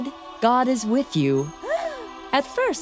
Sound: gasps

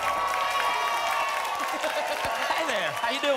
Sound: applause and cheering cont; laughs

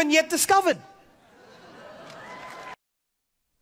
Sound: audience laughs; audience cheers

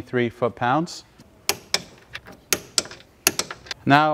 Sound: metal clanking

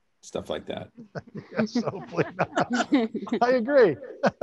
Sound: panelists laughing

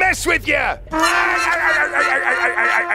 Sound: laughs

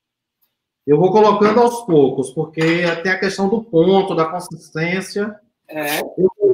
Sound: speaks portuguese

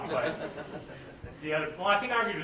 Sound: laughter

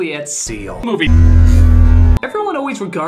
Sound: slowed-down weird-sounding audio

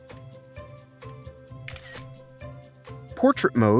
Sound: camera snap

